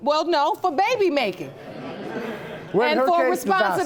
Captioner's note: audience laughing